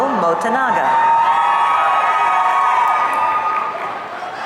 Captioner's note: audience cheering